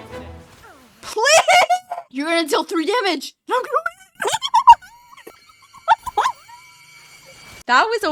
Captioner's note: maniacal laughter